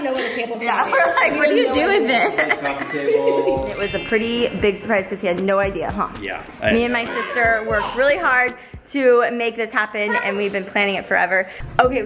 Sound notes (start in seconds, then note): 1.0 laughs